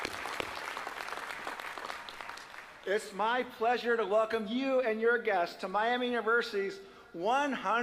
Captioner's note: applause